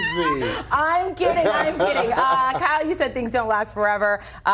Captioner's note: laughter